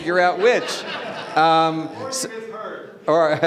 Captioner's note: audience laughing